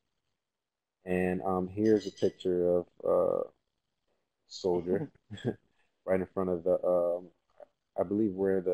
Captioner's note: laugh